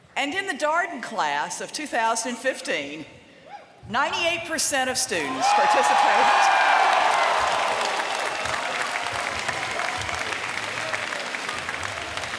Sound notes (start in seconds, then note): 5.2 applause